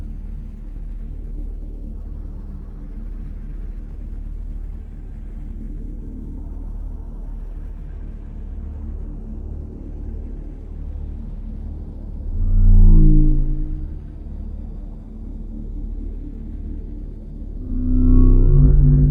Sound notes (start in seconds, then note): 12.3 spacecraft whirring